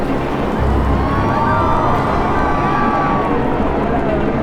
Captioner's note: crowd yelling